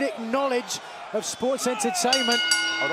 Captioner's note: bell ringing